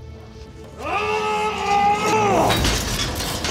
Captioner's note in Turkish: Bağırma sesi